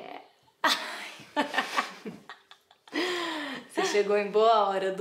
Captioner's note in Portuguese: risos